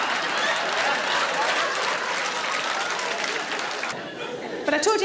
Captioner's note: audience laughing; audience clapping